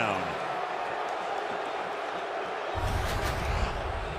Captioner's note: crowd clamoring